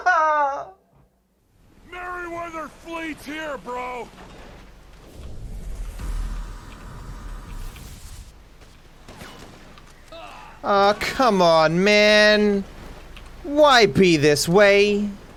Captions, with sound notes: [Trevor with a heavy voice] Merryweather fleet’s here bro Oh, come on man! Why be this way?